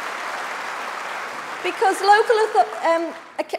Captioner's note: applause